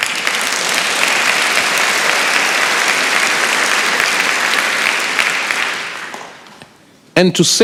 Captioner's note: applause